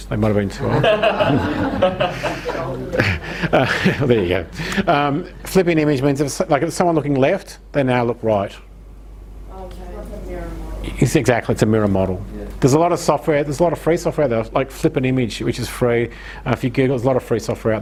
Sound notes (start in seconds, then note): 0.6 audience laughs